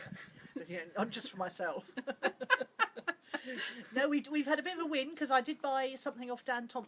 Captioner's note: laughter